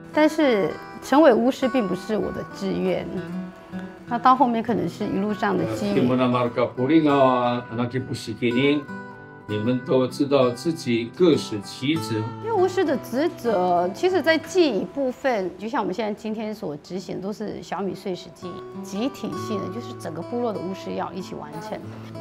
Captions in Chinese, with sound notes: 但是成为巫师并不是我的志愿 到后面可能是一路上的机缘 （排湾族语） 你们都知道自己各司其职 巫师的职责其实在祭仪部分 就像我们今天所执行的就是小米岁时祭 集体性的 就是整个部落的巫师 要一起完成